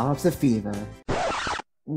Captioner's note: record scratch SFX